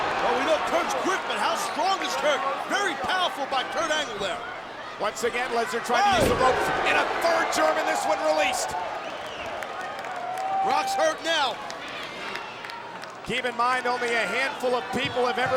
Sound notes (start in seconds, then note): 9.6 audience cheering and clapping